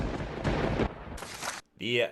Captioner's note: thunder rumbling